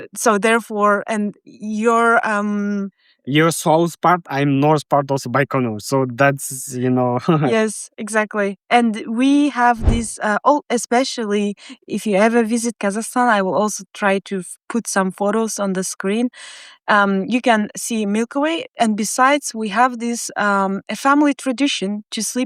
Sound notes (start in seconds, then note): 6.6 chuckling